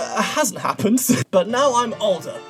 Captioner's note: laughs